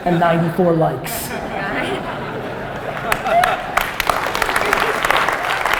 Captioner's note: audience laughter and applause